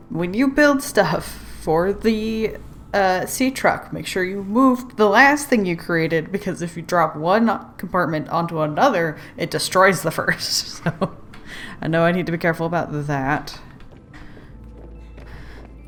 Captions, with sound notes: 'when you build stuff for the uh Seatruck, make sure you move the last thing you created because if you drop one compartment onto another... it destroys the first" *laughs* so I know I need to be careful about that.